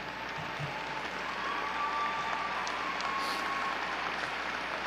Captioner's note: audience cheering